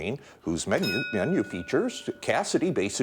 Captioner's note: bell dinging